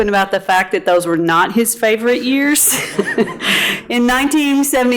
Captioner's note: chuckling